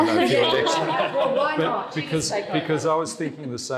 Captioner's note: panel laughing